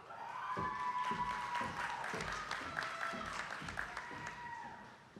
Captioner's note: attendees clapping